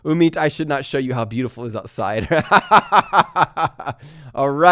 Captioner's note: laughs